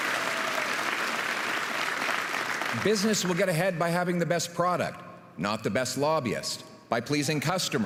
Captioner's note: applause and cheering